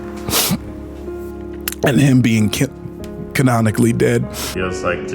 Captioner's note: sniffs